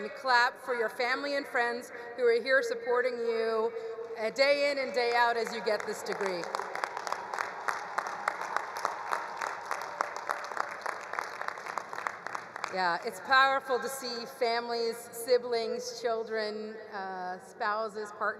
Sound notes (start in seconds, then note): 6.8 all cheering; 7.6 all applauding